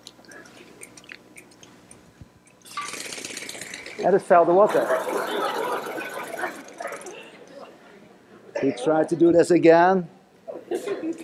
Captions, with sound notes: (quick rattling) And it felt the water. (laughter) We try to do this again.